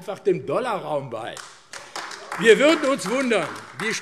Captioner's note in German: Beifall AfD